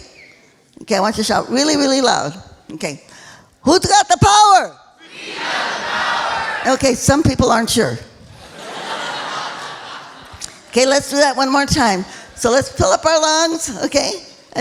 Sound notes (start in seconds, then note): 8.3 laughing